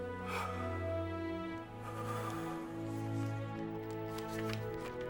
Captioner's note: emotional music; Bill breathes deeply